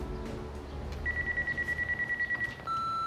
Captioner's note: phone ringing